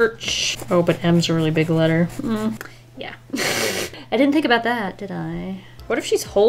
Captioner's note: laughs